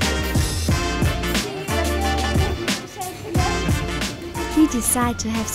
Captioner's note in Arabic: بالتركية